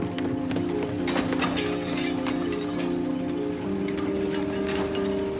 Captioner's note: cans and cutlery clatter